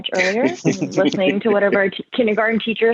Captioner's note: laughs